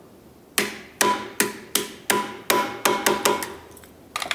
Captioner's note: hammer taps